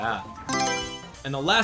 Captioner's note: Mario Selection Sound